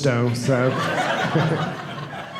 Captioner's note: audience laughing